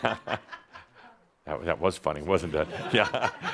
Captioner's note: one woman laughs